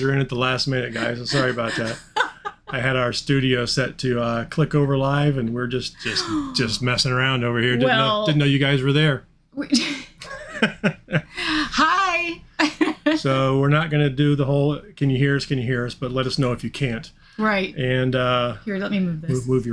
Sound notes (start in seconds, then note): 0.0 chuckling; 10.2 chuckling